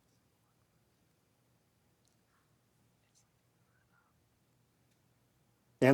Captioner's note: ptiarcipants whispering